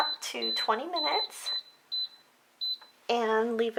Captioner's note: beep, Beep